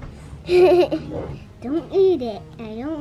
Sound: laughs

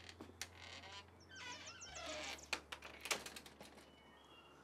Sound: door clicks shut

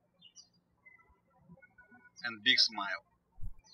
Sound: birds chirping

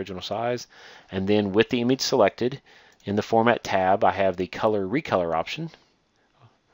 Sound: click

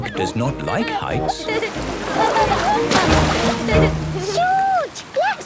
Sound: laughing

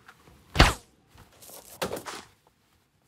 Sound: gunshot

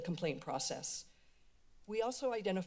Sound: pause

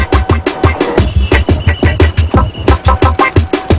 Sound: traffic whistle

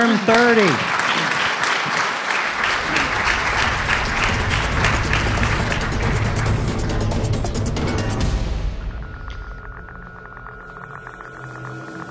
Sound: applause and background noise

